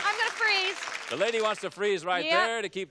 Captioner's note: applause